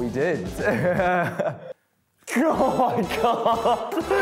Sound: laughing

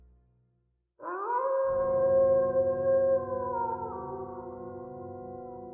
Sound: howling

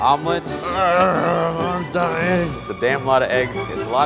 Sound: grunts

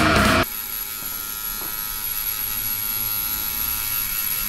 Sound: tattoo gun buzzing

